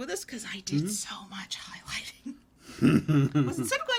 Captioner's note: whispering